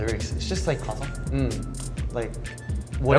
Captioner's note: speaks in Korean